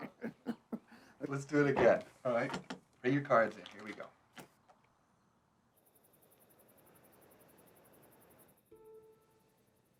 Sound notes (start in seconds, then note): 0.0 laughing; 5.6 crickets chirping